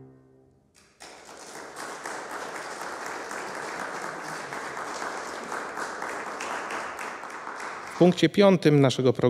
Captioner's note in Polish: oklaski